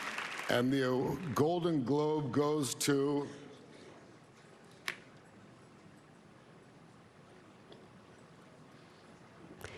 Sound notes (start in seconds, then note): 1.5 applause